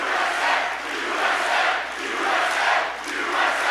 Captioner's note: applause